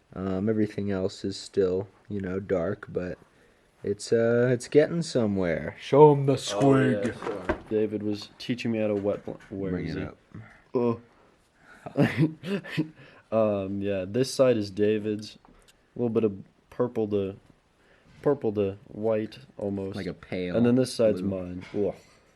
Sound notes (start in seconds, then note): 10.7 confused oh; 11.7 giggles